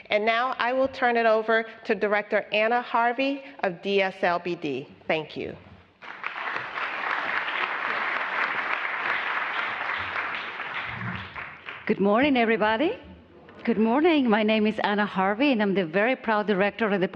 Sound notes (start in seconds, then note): 8.6 applause